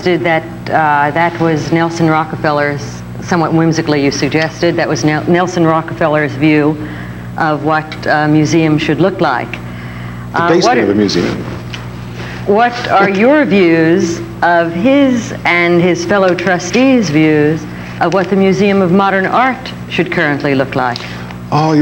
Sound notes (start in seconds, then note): 13.7 laughs